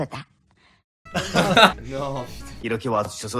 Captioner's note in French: Rires légers